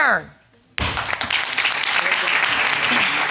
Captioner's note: applause